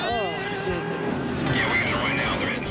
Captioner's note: moans